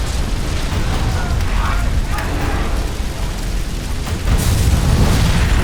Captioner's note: bikers clamoring; explosion thunders